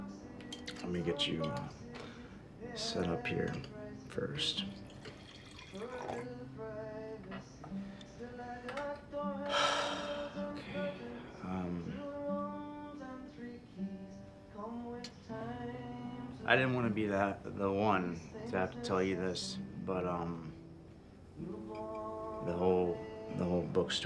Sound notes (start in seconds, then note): 4.3 pouring a drink; 9.5 sigh